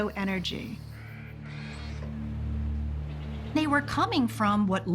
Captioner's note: whirring